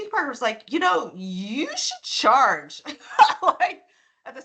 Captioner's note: laughing